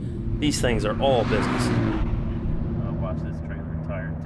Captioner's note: engine roars